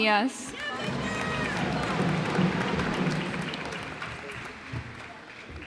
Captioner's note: cheers and applause